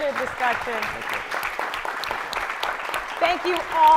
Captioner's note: crowd applauding